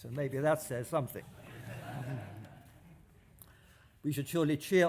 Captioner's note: laughter